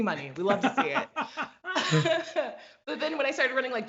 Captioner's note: both laugh